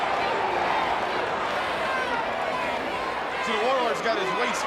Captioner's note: audience chants